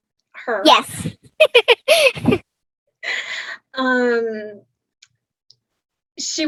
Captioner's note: laughs